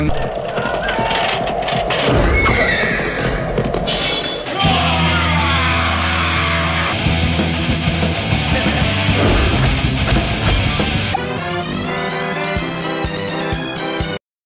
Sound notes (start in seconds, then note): 4.3 shouts; 11.2 circus music